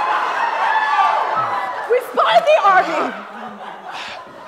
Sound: applause

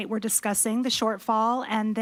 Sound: none

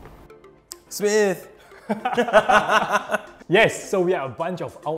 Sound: all laughing

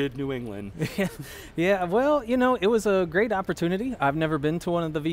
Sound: chuckles

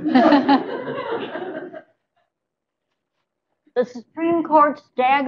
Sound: laughter

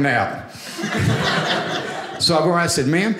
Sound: audience laughing

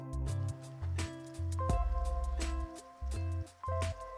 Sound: water running

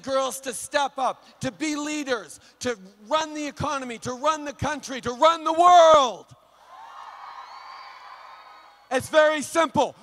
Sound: acclamations

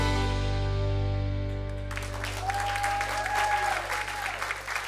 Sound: cheers and applause

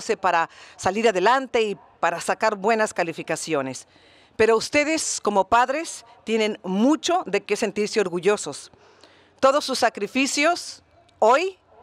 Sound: speaking Spanish

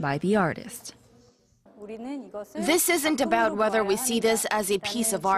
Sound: korean

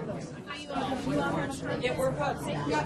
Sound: voiceover

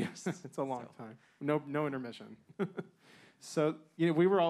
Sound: man chuckling

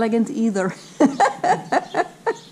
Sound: laughing

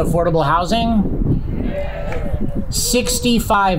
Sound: crowd

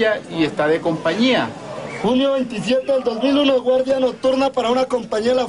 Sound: audio in Spanish

